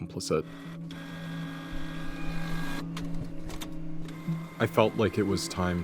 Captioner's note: printer whirring